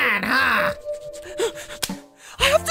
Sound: rapidly breathing

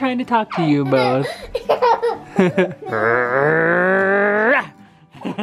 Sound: laughing

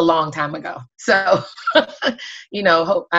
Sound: laughing

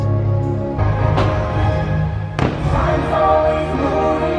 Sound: fireworks bang

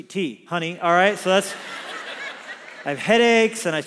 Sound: congregation laughs

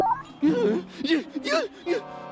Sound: whimpers

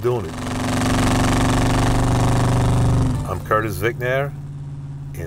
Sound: car engine roaring

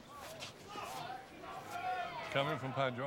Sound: people shout

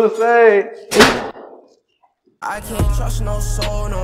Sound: door banging

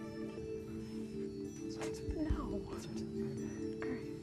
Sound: whispering

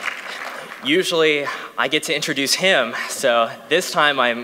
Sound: cheering

